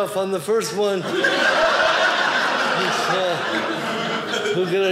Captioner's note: audience laughing